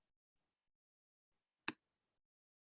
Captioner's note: click